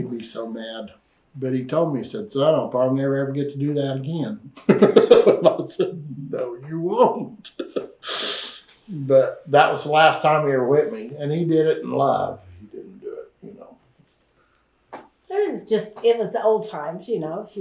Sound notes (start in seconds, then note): 7.0 laughs